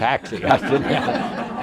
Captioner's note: audience laughter